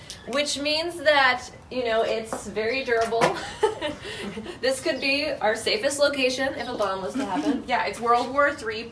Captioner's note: laughing